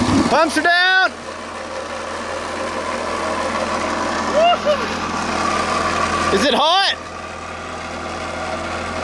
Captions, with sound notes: Pumps are down! (hollering) Is it hot?